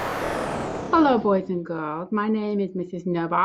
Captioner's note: whooshing